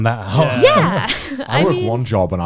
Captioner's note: laughs